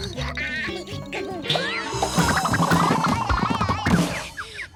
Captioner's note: Milo grunts; Tucker giggles; Tucker whimpers